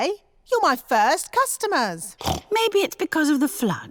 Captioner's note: snorts; laughs